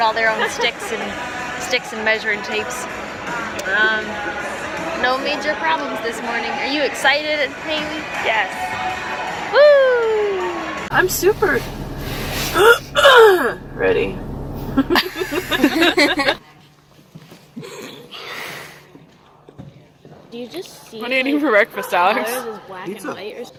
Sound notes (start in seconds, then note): 12.3 coughs loudly; 14.6 everyone laughs